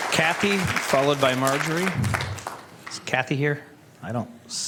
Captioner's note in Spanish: Aplausos